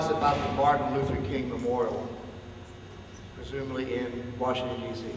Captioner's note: none